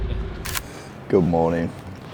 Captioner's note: screen snaps